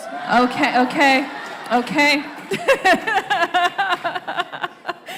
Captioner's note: laughs